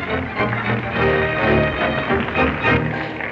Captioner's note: audience applauding